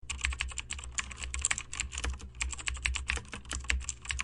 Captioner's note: keyboard clicking